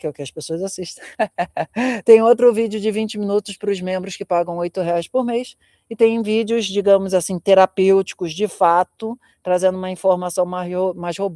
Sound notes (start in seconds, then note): 1.0 laughter